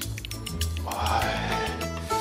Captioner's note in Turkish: Nefes sesi